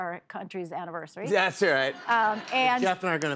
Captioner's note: laughter